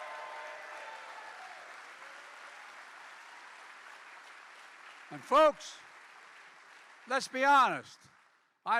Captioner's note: applause